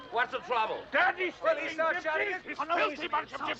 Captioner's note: both shouting